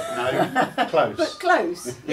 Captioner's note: laughs